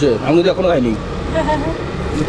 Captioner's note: laughs